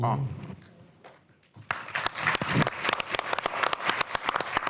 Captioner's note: applause